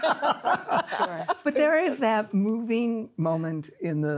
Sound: laughter

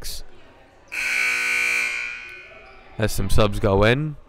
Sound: loud buzzer blaring

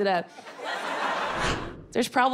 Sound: audience laughing

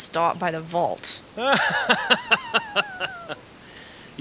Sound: laughs heartily

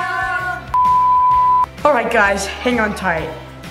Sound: tone sounds

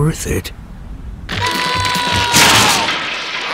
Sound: screaming

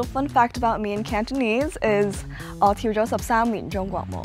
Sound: speaking Cantonese

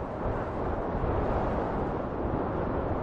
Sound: strong wind noise

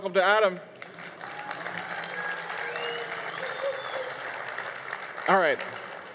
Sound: crowd applause

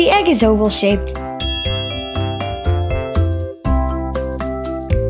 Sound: bell dings

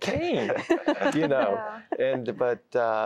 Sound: laughter

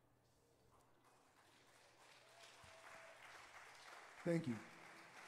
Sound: audience applauding

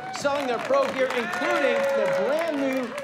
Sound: crowd clapping

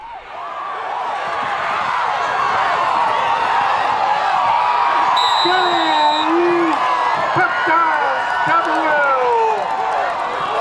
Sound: crowd cheering

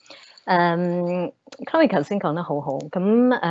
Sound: Cantonese

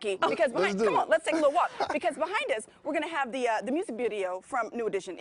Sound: laughing

